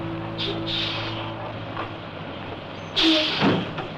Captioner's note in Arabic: فرامل الهواء تهسهس